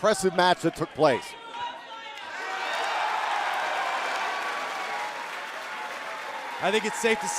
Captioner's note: crowd cheering